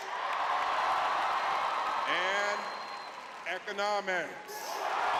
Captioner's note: audience cheering